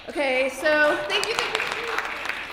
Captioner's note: applause